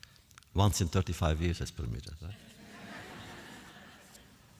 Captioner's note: laughter